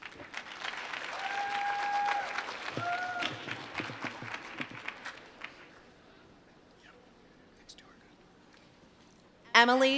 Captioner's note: applause